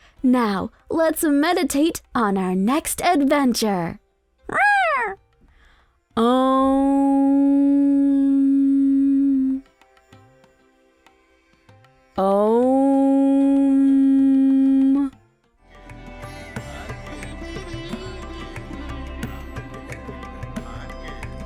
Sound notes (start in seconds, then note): 4.5 Joy meows; 15.6 gentle upbeat music